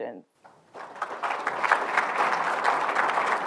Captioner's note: applause